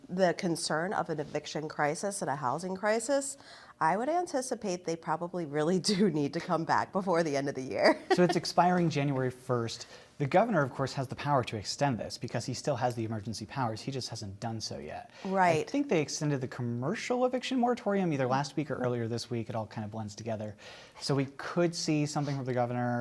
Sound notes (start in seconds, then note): 7.9 laughter